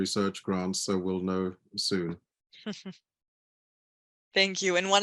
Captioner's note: chuckles